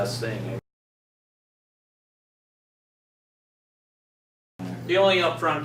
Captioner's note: silence